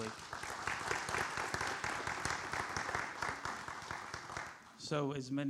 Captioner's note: audience applauds